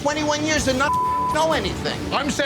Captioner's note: beep